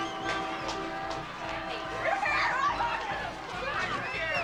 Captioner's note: chatter and laughter